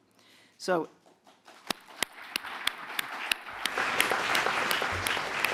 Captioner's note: applause